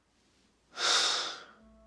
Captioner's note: Michael sighs; light eerie music